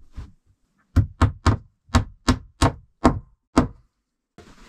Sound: hammer thumping

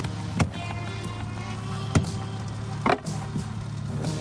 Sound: thudding

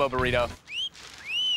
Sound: wolf whistle

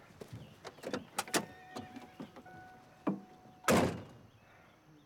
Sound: door opening & closing

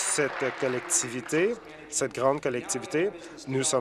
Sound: applause

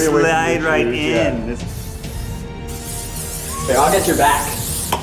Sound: inspirational music; hissing

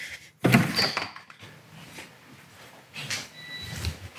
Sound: door unlatches

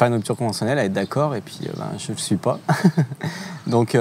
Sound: he laughs

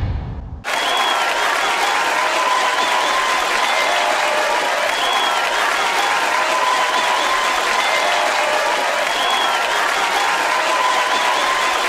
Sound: cheering

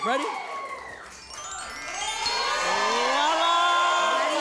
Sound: twinkling

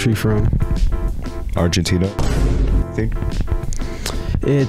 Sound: boom sound effect

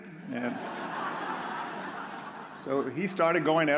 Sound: audience laughs

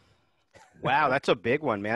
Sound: laughs

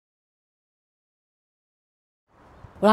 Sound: no audio

